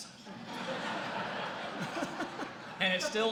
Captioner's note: laughter